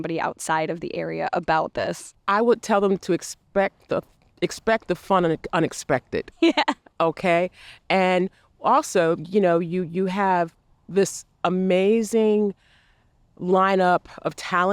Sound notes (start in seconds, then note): 6.8 laughs